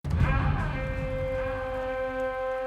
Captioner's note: horns blow